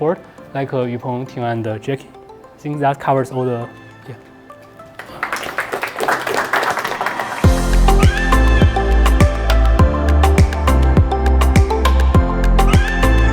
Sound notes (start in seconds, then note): 3.7 chill electronic music; 4.8 audience applauding; 7.1 upbeat electronic music